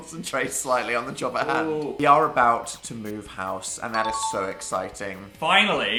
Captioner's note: ding